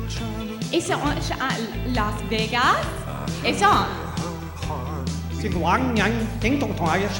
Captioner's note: speaks Chinese